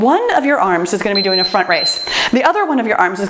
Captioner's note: timer beeps